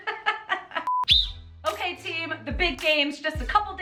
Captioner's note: whistle